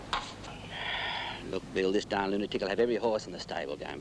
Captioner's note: sighs